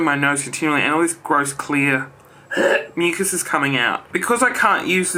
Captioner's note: gags